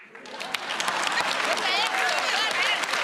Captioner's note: applause